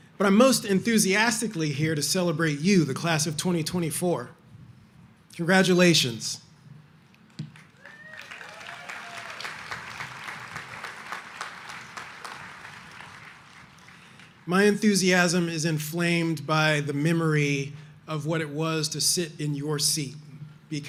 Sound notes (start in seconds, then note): 7.5 audience applauding